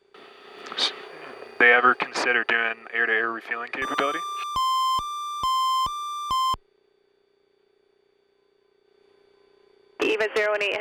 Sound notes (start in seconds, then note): 3.8 alarms beeping